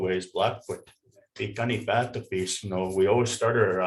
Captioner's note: speaking in foreign language